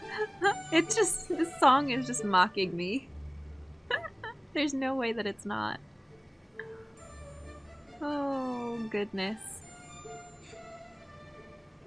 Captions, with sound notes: *giggles* It just, this song is just mocking me! *laughs* There's no way that it's not. Ohhh goodness.